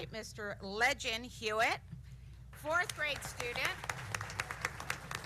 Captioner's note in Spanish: aplausos